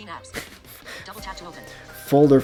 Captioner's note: laughs